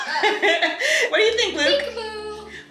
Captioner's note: laughs